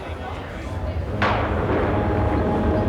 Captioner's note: thunderclap; rumbling